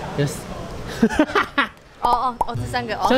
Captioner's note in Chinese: 笑出來